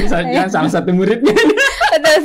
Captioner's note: laughs